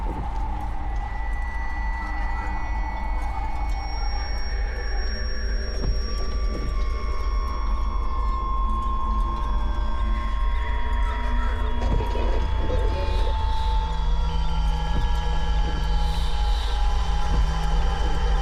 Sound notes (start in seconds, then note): 5.0 disorienting music; 13.1 static crackling